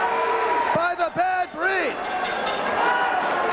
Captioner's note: crowd cheering; crowd chatter